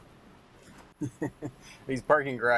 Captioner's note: chuckles